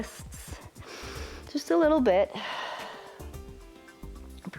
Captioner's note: exhales